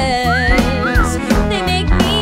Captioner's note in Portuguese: assobio